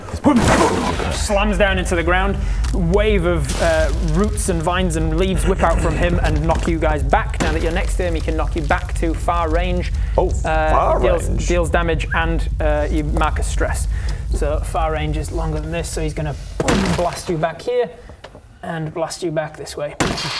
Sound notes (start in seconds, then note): 16.4 boom